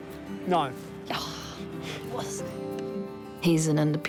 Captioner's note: scoffs